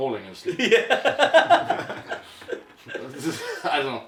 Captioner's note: laughing